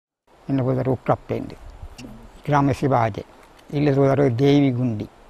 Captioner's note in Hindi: तुलू में बोलते हुए